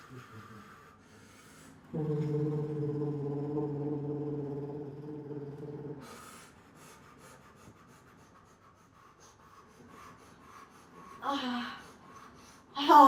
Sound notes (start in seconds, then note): 6.0 breathing; 11.3 moaning